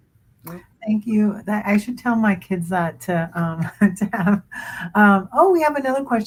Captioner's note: laughs